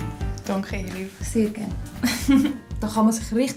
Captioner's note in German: lacht